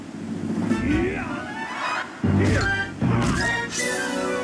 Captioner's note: Ganon grunting